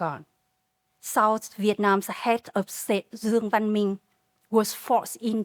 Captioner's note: speaking Vietnamese